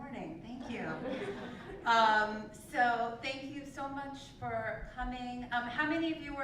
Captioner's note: laugh